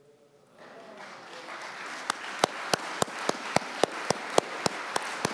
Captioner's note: audience clapping